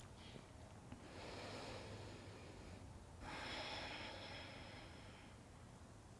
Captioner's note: breathing